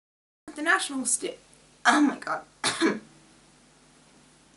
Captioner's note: clears throat